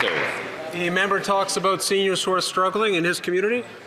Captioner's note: applause